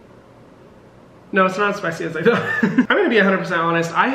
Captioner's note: laughs